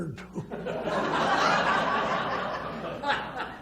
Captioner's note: laughs